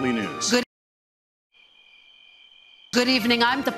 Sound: sound of crickets

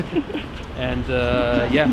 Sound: laugh

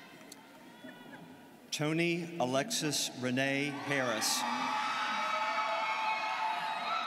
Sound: students cheering

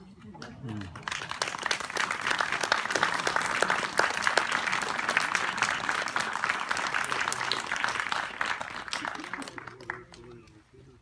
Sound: applause

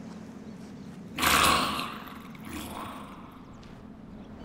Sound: rattly moan

